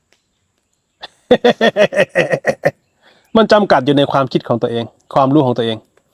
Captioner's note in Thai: เสียงหัวเราะ